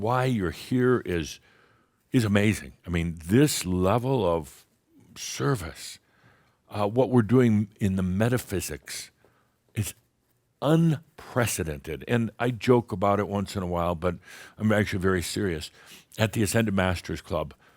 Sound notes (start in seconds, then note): none